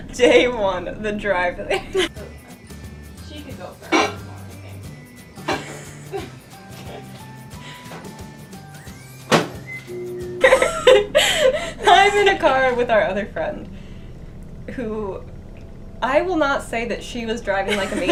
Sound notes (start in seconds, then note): 1.8 happy music; 2.8 microwave sounds